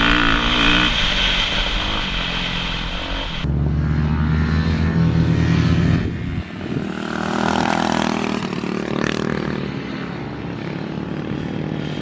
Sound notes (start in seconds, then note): 5.1 engine humming